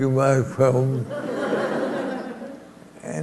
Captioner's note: laughter